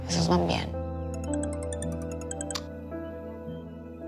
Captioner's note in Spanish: Suena el celular